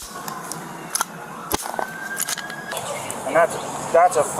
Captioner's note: gun clicking